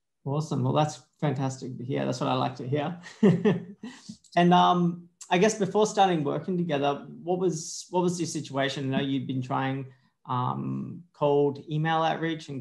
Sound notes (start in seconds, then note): 3.0 laughing